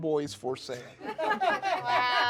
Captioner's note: laughing